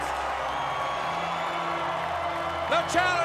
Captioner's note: crowd cheering